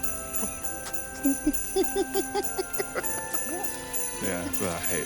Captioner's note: Crystal laughing